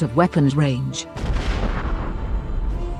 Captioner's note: muffled Boom